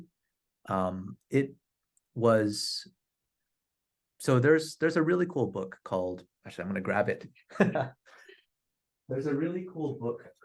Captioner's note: laughter